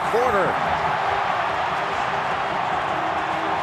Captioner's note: crowd cheers